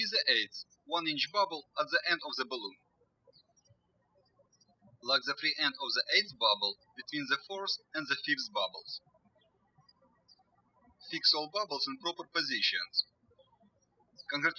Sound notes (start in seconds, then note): 9.9 birds chirping